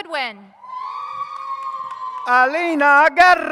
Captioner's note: audience cheers